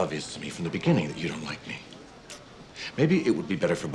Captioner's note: clicks tongue